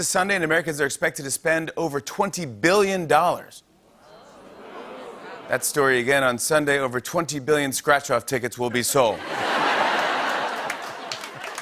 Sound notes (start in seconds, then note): 4.0 audience "Oohs"; 9.1 laughter